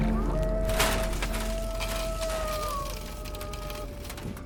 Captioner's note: thud